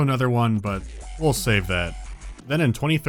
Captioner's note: MLG montage aural assault